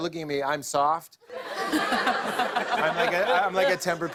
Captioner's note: laughter